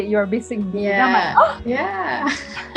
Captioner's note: laughs; gasps in Basic B